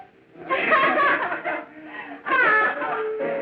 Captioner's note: laughing